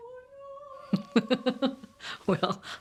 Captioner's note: laughs